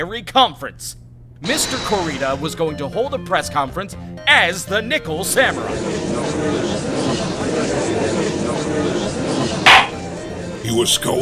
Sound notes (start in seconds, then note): 5.5 gallery chattering; 9.6 gavel slams!